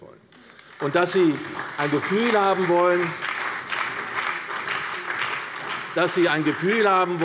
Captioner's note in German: Beifall bei der CDU und dem BÜNDNIS 90/DIE GRÜNEN